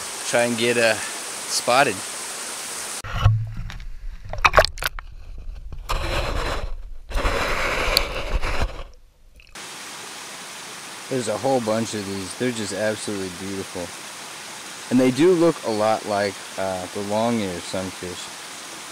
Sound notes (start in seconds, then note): 3.1 water surface breaking; 5.9 sand crunching